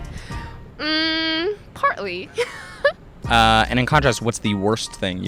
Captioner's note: laughs